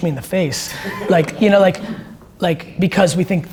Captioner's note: audience laughs